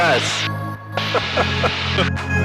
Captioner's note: laughing